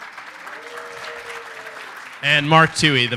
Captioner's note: applause